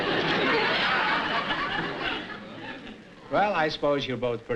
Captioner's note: laughter